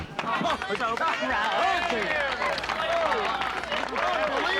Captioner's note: applause and cheering